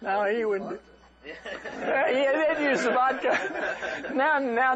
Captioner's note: laughter